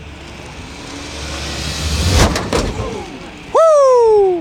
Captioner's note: car speeds